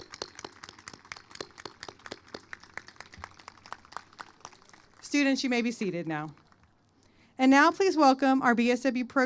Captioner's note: applause